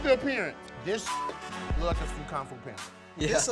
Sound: beep

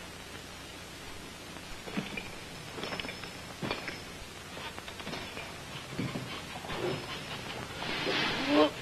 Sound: footsteps; someone being sick

